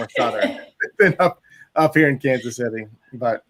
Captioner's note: laughs